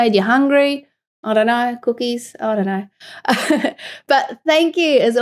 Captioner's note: laughs